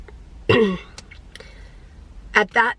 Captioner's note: clearing throat